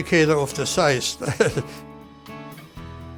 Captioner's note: laughs